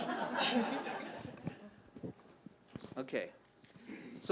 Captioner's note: audience laughing